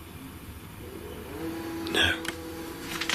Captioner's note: machine roaring